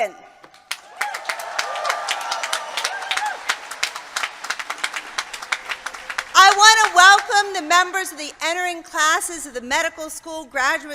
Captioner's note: applause